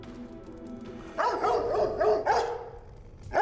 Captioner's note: dog barking